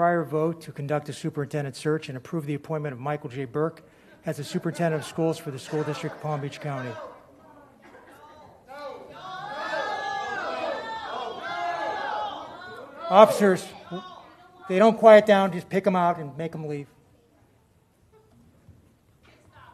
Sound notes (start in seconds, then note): 14.4 audience yelling no